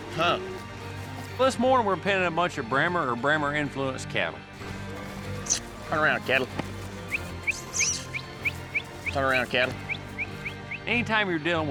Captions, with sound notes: WELL THIS MORNING WE'RE PENNING A BUNCH OF BRAHMER, OR BRAHMER INFLUENCED CATTLE. [KISS SOUND] TURN AROUND, CATTLE. [WHISTLING] TURN AROUND, CATTLE.